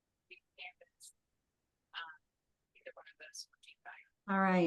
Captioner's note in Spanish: conversación confusa